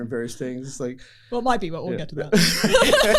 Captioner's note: laughter